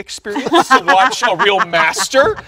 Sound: all laughing

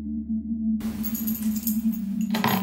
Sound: jingle of key being put down

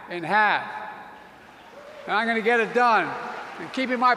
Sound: applause

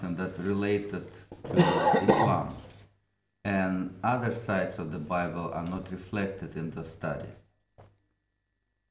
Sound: coughs

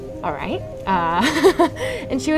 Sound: nervous laughter

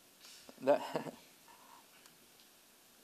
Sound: chuckles

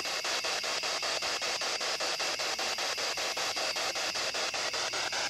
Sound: loud, choppy static

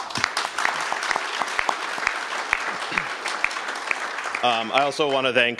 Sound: applause

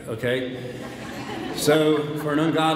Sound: audience laughs

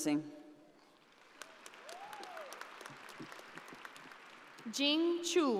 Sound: audience applauding

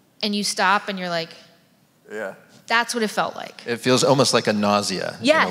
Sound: none

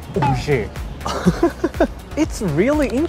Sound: chuckles

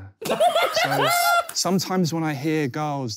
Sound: laughing

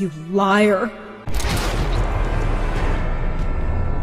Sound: bang

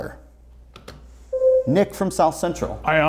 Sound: buzzer sounds

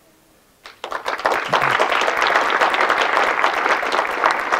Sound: audience clapping

